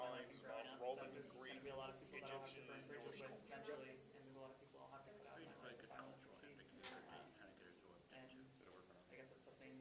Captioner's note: students chattering